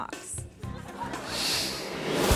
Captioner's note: partygoers chattering; audience laughing